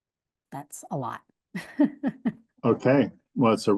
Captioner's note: laughs